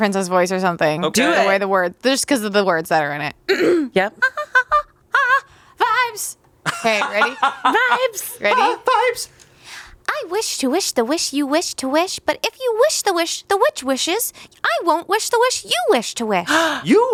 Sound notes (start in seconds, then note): 3.5 clears throat; 5.1 vocalizes